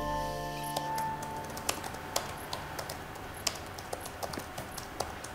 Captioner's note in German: Computer-Tastatur-Geräusche